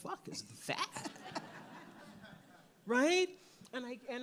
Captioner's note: audience laughs